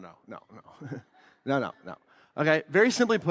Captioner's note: laughs